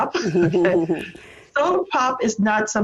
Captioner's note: laughing